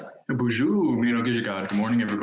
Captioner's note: speaks in French